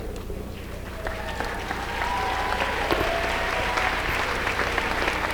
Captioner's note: applause